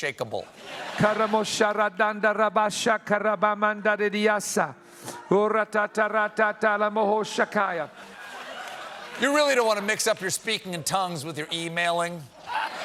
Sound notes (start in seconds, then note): 4.7 speaking in tongues